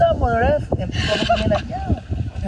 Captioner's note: laughs